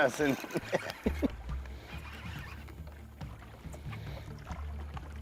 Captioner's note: laughing